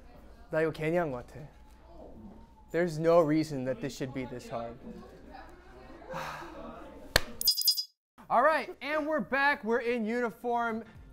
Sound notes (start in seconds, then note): 6.1 sigh; 7.1 clap